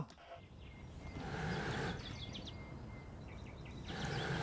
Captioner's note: bellow puffing